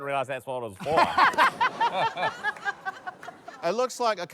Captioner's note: laughter